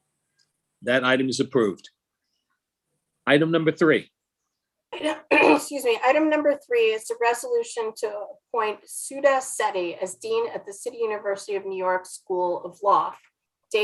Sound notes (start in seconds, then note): 5.1 clears throat